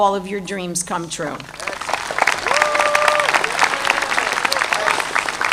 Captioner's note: audience applauding